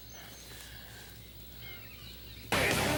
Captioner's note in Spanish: pássaros cantando; música heavy metal